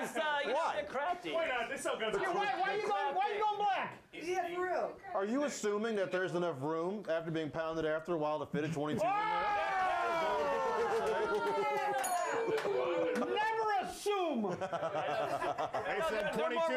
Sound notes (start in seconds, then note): 11.9 bell rings